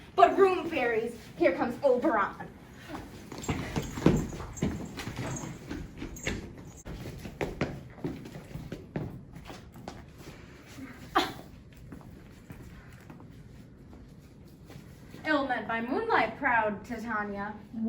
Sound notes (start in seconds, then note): 11.1 Titania scoffs